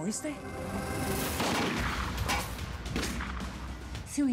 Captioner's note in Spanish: continúa la balacera